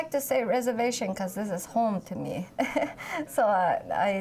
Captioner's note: laughs